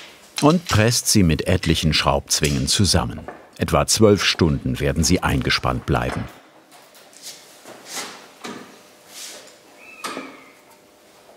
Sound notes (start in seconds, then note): none